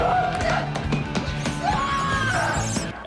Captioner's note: yells